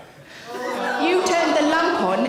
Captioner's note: audience gasp